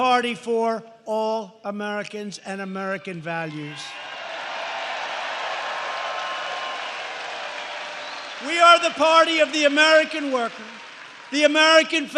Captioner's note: applause